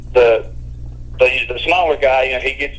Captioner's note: none